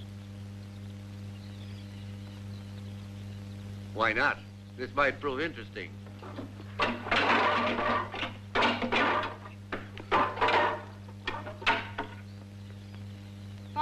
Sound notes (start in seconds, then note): 6.7 weapons clattering